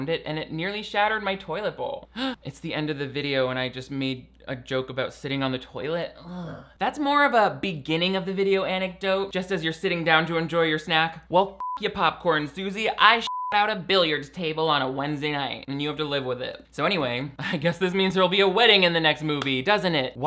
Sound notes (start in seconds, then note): 2.2 gasps; 13.2 beep